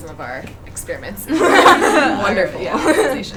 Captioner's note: audience laughs